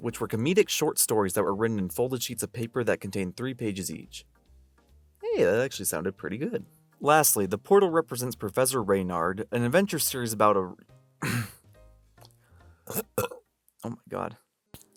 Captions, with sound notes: which were comedic short stories that were written in folded sheets of paper that contained 3 pages each. Hey, that actually sounded pretty good! Lastly, the portal represents Professor Reynard, an adventure series about a r- *Clears throat* *Burp* Oh my god.